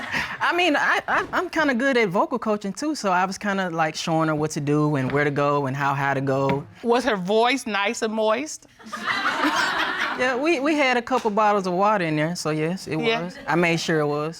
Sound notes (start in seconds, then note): 8.8 audience laughs